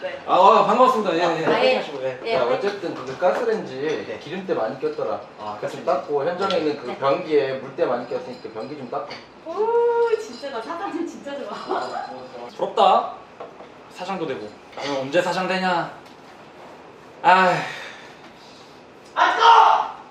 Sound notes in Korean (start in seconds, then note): 17.4 한숨